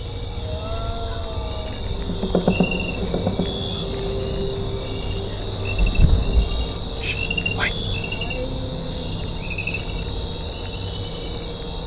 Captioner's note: groan